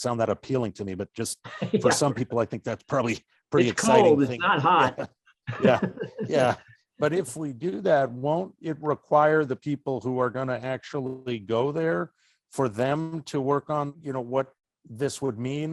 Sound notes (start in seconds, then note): 5.5 laughing